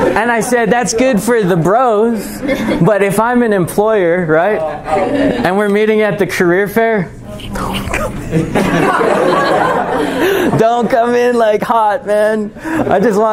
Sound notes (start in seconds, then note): 7.9 laughter